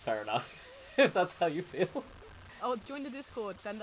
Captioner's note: laughs